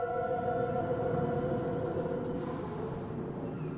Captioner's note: wind blows